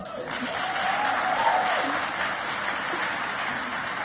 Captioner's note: audience cheers